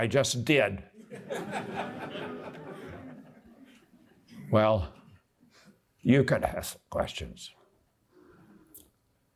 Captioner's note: laughter